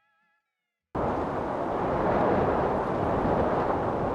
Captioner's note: wind